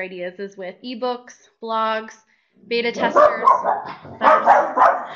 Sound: dog barking

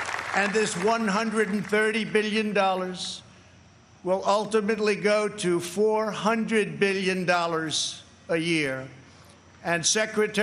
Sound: applause

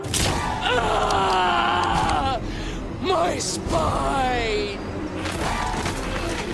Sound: crack; screaming

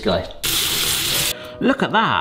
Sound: water rushing

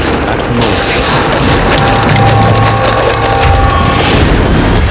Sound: suspenseful music; soldiers clattering; dramatic music

